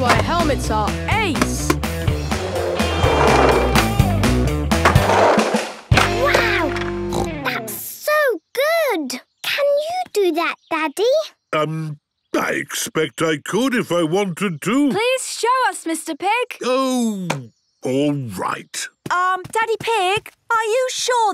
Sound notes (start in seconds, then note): 7.1 snorts